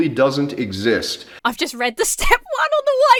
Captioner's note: laughs